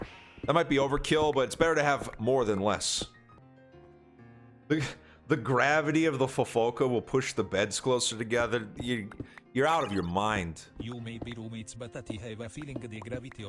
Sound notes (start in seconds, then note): 4.8 chuckles